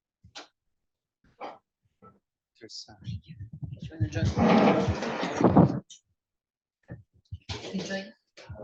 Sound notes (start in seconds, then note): 3.8 background chatter